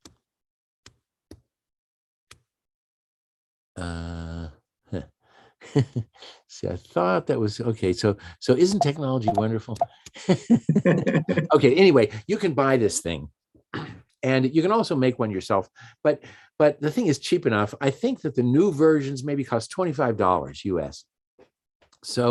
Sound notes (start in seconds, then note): 0.2 keyboard typing; 5.7 chuckles; 10.2 chuckling